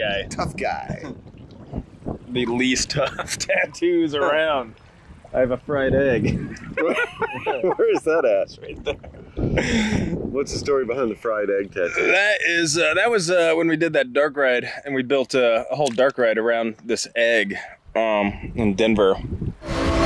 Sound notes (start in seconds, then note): 6.2 laughs